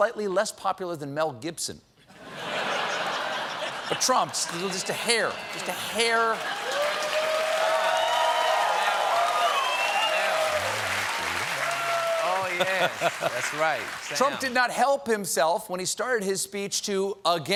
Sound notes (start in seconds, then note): 2.1 laughter; 10.2 cheers and applause